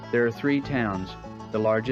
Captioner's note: banjo music; voiceover